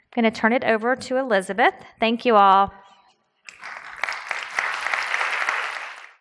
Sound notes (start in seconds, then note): 3.4 applause